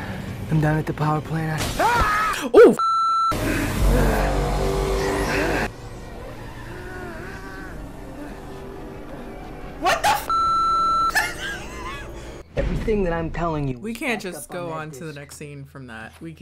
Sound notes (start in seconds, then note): 1.4 detective yelling; 1.4 glass shatters; 2.8 beep; 4.4 intense music; 10.2 beep